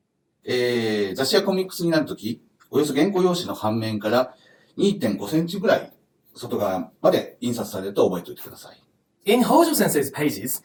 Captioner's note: speaking Japanese